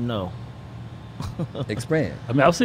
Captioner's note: chuckles